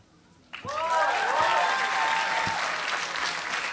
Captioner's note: applause